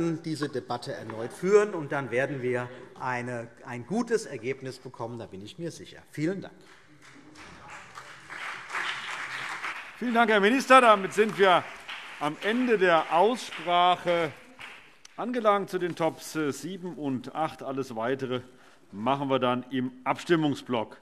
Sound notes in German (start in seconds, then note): 6.6 Beifall CDU und BÜNDNIS 90/DIE GRÜNEN